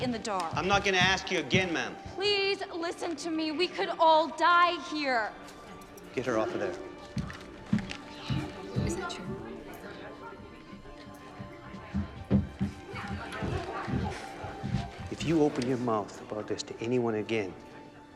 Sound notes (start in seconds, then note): 13.3 crowd